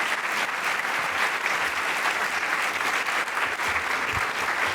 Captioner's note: applause